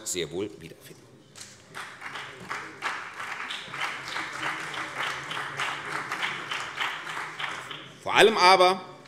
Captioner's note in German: Beifall CDU und BÜNDNIS 90/DIE GRÜNEN